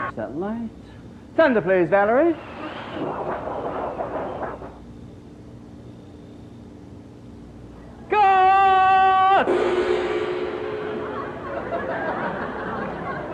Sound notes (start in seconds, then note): 2.9 wind and thunder sounds; 10.8 audience laughs